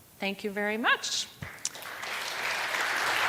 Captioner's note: applause